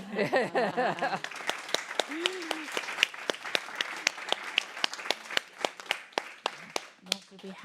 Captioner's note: applause